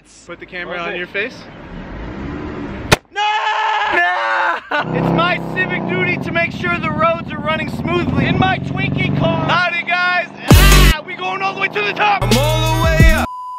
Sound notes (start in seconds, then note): 2.9 balloon pops